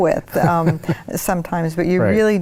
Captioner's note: laughs